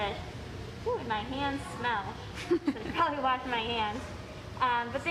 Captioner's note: laughs